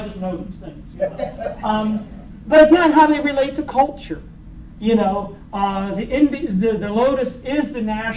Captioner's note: laughter